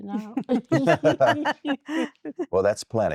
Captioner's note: laughter